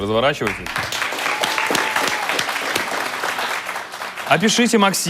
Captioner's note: applause